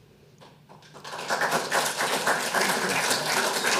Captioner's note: audience applauding